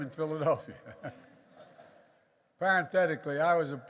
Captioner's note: laughter